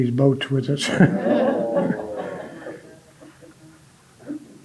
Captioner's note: audience laughing